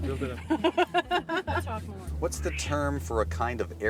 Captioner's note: laughing